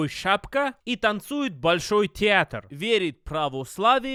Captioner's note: russian accent parody x2; russian accent parody x3; russian accent parody x4